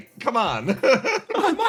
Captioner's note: laugh